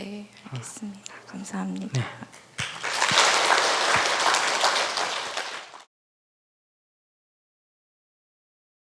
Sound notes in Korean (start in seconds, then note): 2.6 청중 박수